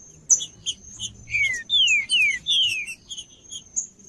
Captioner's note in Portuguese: trinca ferro cantando